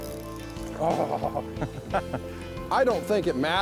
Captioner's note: laughing